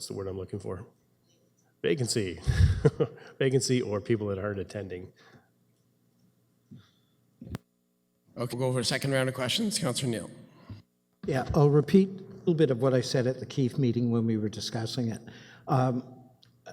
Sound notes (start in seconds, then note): 2.4 chuckles; 6.6 audio drop